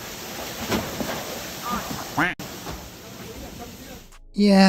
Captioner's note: panels thud; quack; water gushing